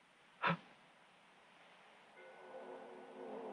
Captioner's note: man gasps; mysterious orchestral music